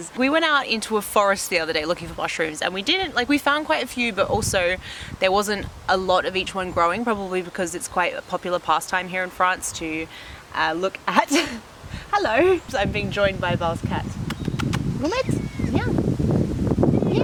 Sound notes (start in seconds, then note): 11.2 laughs